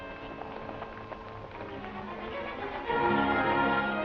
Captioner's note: hooves clattering